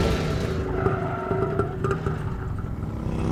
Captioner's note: brakes screech